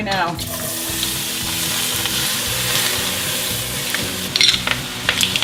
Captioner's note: lighthearted music; sizzling